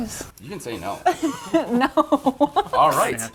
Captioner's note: chuckles